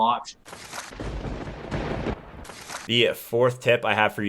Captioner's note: thunder rumbling